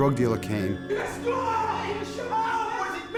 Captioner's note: overlapping shouts